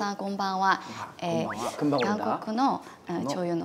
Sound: speaking Japanese

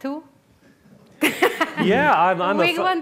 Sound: laughs

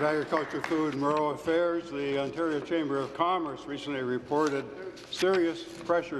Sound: applause

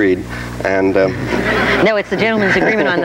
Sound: audience laughs

